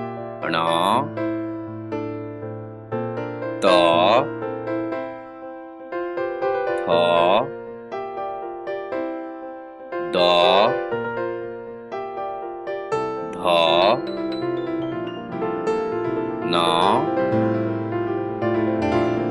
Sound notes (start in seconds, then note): 4.2 Spanish